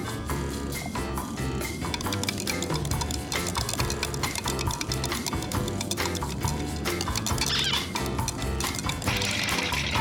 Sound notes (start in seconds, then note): 7.2 squeak